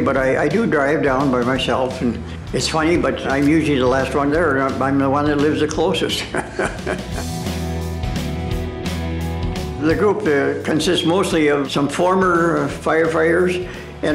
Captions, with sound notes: but I do drive down by myself and it's funny, but I'm usually the last one there and I'm the one that lives the closest (laughing). The group consists mostly of some former firefighters